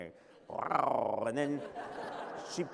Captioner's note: laughter